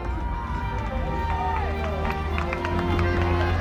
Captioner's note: crowd cheers